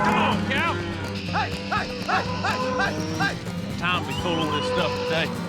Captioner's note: shouting, cows moo